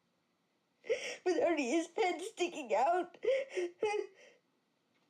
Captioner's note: crying